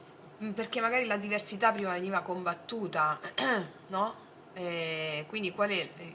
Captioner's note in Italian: schiarire la voce